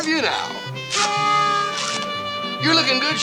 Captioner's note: noisemaker shrills